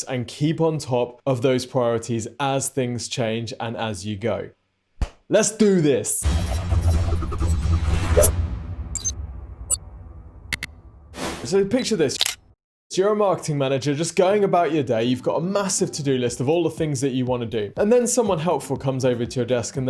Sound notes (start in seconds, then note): 6.2 dramatic music; 12.2 camera clicking